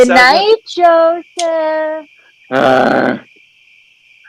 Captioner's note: offstage, sing-song voice